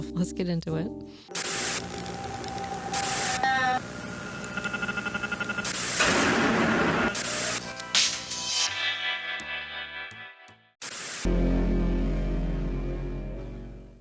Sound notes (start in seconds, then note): 1.3 eerie sounds, clicking and static; 7.4 tinny music